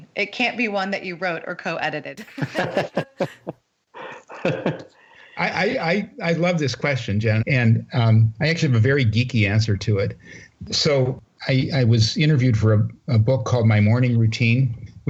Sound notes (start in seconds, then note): 2.2 laughter